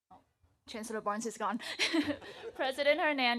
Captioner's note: laughs